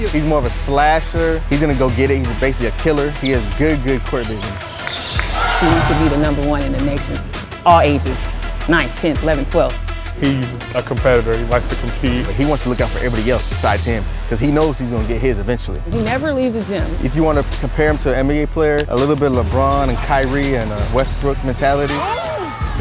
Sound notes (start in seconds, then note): 4.0 crowd cheering